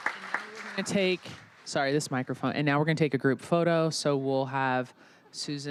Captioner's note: applause